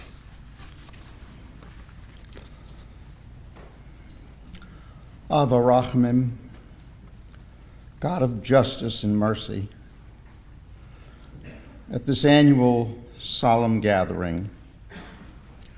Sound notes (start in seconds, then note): 4.1 in Hebrew